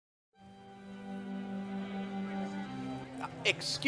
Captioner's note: voices of guests, ballroom music